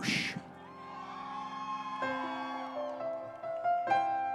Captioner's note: audience cheering